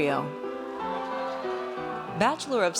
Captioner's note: audience cheers